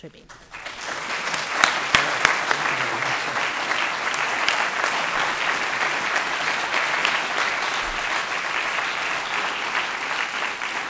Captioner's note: applause